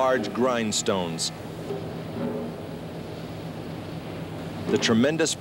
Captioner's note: machinery running